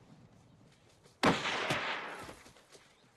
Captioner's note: gunshot